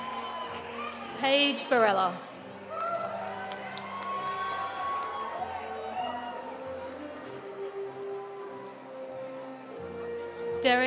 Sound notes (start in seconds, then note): 2.5 audience applauding; 2.7 audience cheering